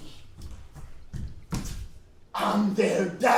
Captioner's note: foot thumping